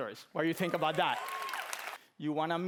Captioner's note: applause